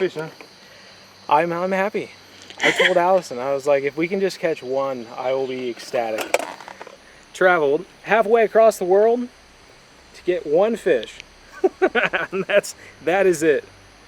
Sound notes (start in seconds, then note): 11.5 laughter